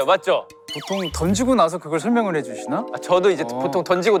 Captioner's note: in a tone of disbelief